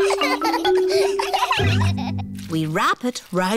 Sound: snorts; all laughing

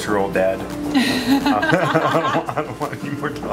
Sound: laughing

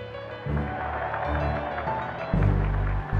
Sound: cheering

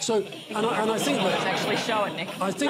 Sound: laughter

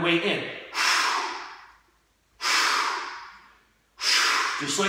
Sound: exhaling

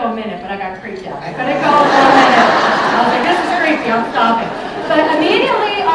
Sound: laughter

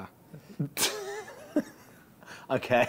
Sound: laughing

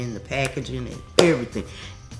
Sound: hands clapping

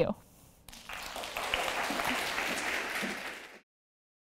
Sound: applause

